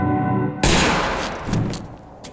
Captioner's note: gunshot